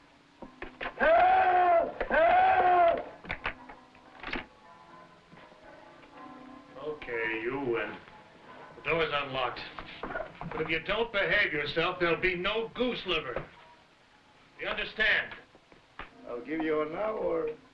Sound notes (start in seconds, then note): 3.4 bells pealing